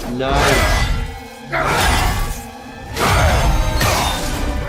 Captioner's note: weapons hitting